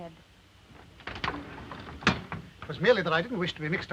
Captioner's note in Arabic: صوت الباب ينغلق